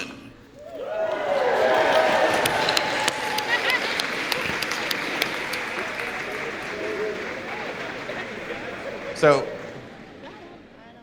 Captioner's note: applause